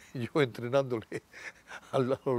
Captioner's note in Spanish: Ríe